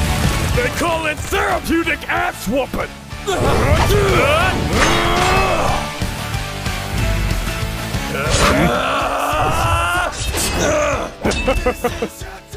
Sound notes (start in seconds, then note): 4.2 more anime grunts w/ sword clashes